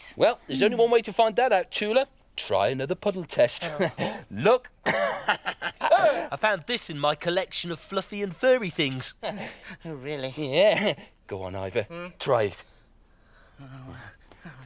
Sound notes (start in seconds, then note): 4.9 laughs